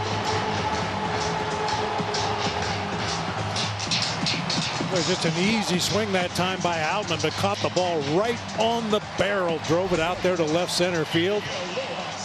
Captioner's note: crowd noise